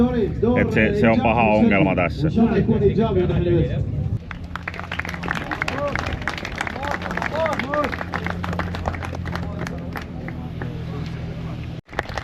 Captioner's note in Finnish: Aplodeja